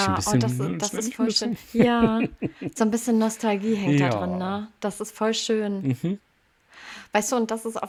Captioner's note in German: gelächter